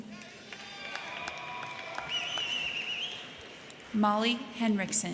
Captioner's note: crowd cheering; crowd clapping